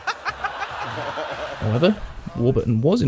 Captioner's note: laughter